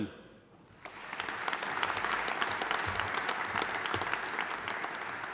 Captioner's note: audience applauding